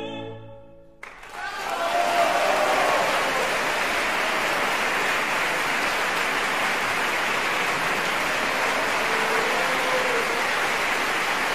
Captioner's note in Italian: applausissimo